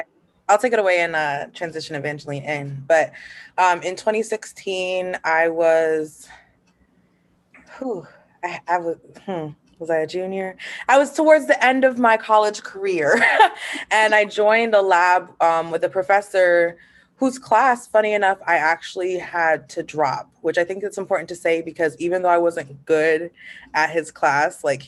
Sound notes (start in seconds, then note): 13.1 laughter